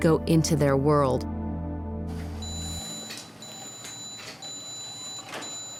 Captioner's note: beeping